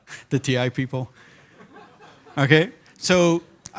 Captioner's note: laughter